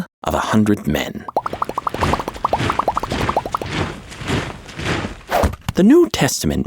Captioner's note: feet marching